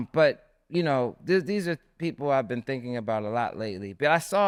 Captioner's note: none